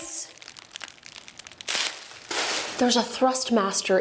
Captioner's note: bubble wrap crackles